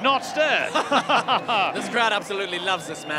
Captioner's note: both chuckle